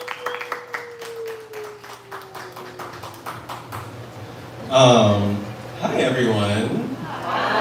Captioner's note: applause